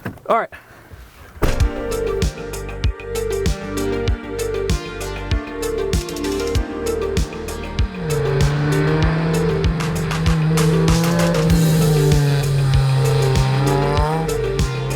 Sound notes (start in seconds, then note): 1.7 lo-fi music; 8.3 car engine revs